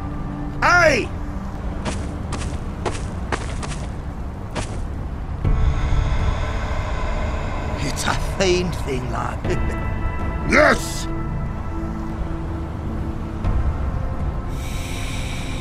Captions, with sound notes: Aye! *footsteps* It's a fine thing lad, hehe. Yes.